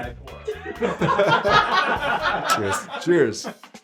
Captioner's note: laughter